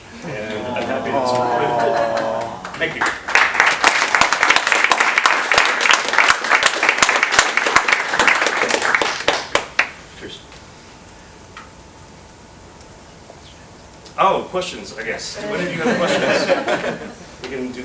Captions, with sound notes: and I'm happy- - Aw. - Thank you. (audience applauds) Cheers. - Questions? - Oh, questions, I guess. Do any of you have questions? (audience laughs)